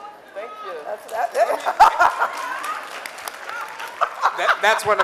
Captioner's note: audience cheering